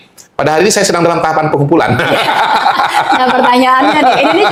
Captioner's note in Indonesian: tertawa